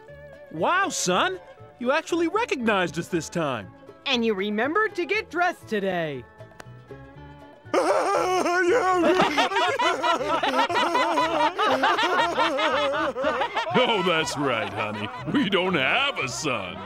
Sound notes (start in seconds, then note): 7.7 laughing